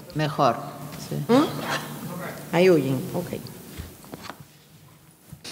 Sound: speaking in a foreign language

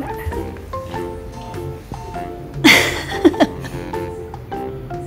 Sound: laughs

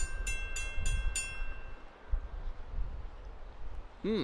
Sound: crossing bell stops

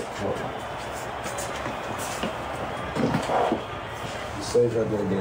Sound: crowd chattering; footsteps shuffling

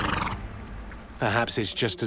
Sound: horse snorts

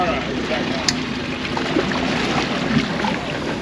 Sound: water lapping; splashing

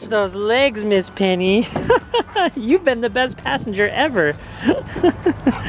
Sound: laughs

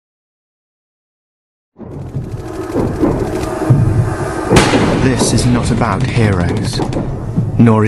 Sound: Sound of machine gun fire, and an actor speaking as Owen

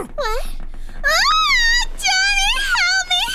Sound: funny videos Honey Bunny shrieks

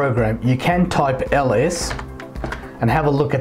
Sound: keyboard typing sound

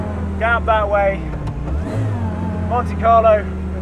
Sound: car engine revs

